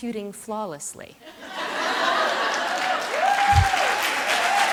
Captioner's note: laughter